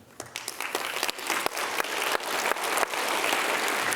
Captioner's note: applause